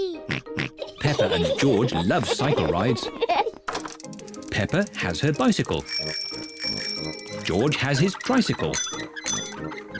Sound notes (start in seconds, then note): 0.8 both giggle; 5.8 rings bell; 9.2 rings bell